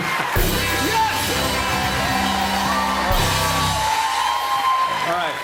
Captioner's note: laughter, cheers, applause; cheers and applause